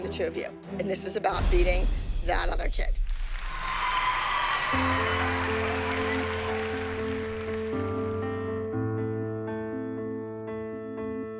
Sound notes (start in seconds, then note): 3.0 cheering and applause